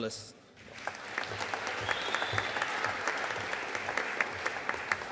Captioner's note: audience applauding